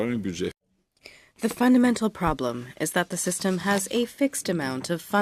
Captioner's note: speaking in French